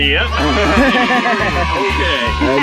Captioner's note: group laughs